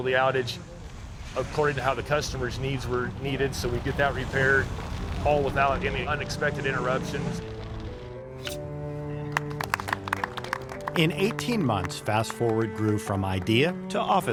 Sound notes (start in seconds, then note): 9.2 crowd applauding; 9.9 gentle music